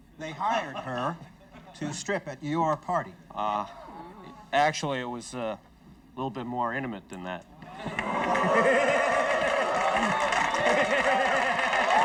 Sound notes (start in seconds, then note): 7.7 audience oohs; 9.5 Pete laughs